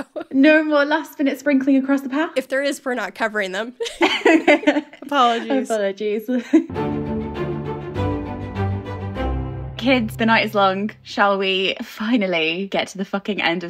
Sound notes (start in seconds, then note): 3.8 both laughing; 6.7 upbeat music